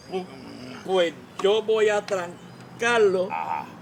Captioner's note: stuttering